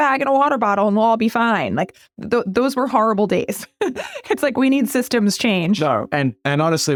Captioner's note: laugh